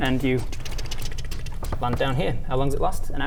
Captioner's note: tkt tkt tkt tkt tkt tkt tkt tkt tkt tkt tkt